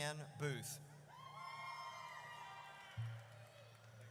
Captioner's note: audience cheers